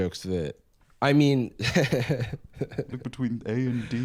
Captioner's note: laughs